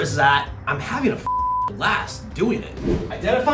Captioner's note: beeps